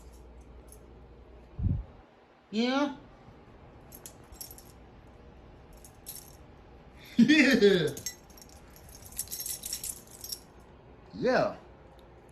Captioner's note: Ella giggles